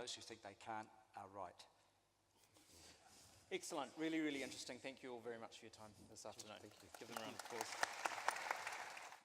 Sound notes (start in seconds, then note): 6.7 applause